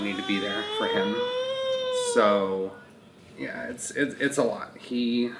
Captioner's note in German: gurrt